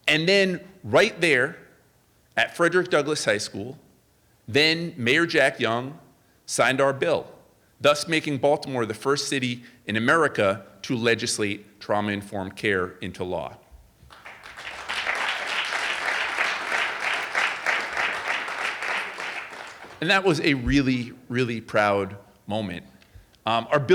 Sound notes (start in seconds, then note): 14.0 audience applauding